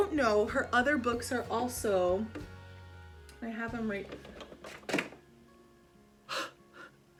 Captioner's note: sighs in Spanish